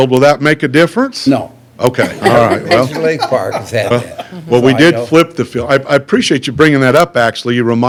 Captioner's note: laughter